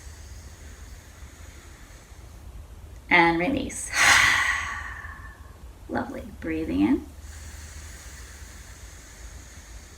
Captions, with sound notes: and release. [exhales] Lovely. Breathing in [inhales]